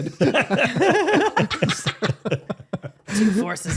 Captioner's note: laughing